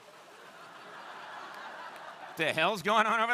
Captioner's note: crowd laughing